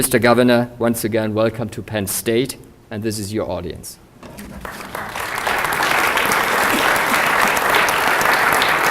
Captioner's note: applause